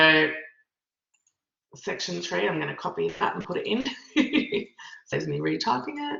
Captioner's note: laughs